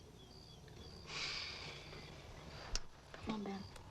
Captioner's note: Tommy sighs